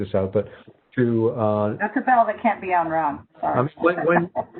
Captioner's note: laughs